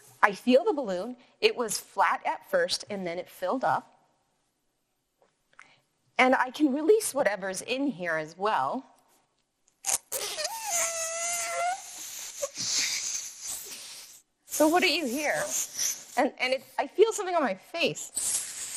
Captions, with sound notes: I feel the balloon, it was flat at first and then it filled up. And I can release whatever is in here as well. (releasing air from balloon) So what are you here? And I feel something on my face.